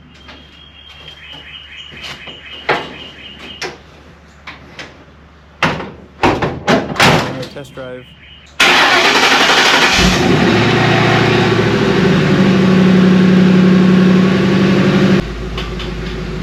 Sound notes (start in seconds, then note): 1.6 more Noisy Truck Sounds Intensify